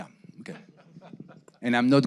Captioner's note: laughing